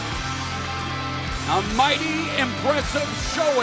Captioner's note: cheers and applause